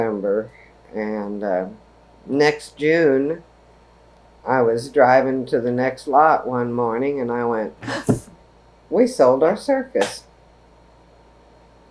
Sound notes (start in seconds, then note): 7.5 gasp